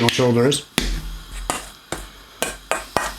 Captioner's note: tapping